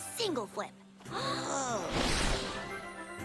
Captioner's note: both gasp